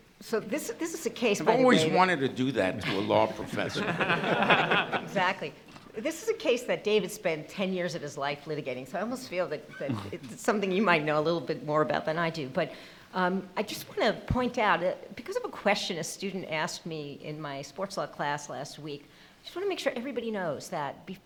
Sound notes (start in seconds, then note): 4.8 laughing